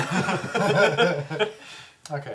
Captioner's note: all laugh